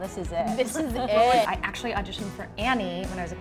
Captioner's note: laughs